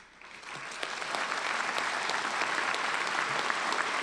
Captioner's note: applause